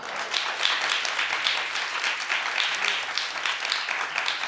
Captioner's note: audience applauding